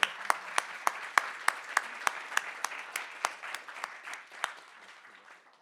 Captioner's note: audience applauding